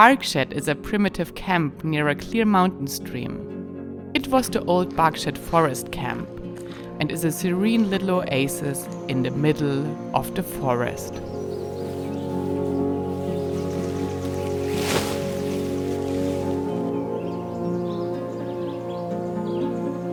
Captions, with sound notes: Barkshed is a primitive camp near a clear mountain stream. It was the old Barkshed Forest Camp and is a serene little oasis in the middle of the forest. (tranquil music) (tent rustling) (tranquil music)